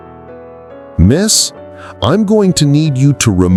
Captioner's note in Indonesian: suara tegas